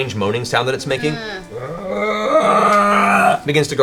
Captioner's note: moans